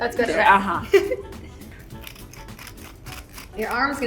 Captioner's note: giggles